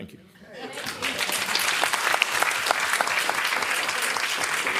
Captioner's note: applause